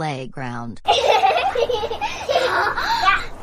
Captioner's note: kids giggling